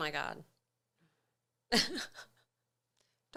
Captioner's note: laughing